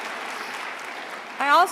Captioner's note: applause